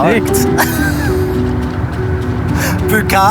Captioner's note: laughing